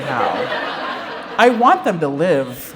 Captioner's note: laughter